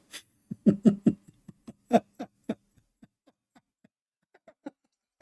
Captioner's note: Ketawa